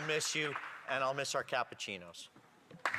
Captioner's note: some Applause